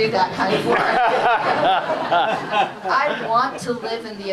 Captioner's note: laughter